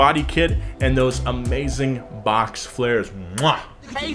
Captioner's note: kisses